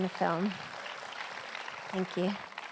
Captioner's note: applause